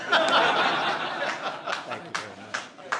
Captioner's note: laughter